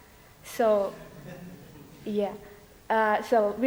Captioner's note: light laughter